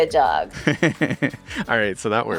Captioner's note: chuckles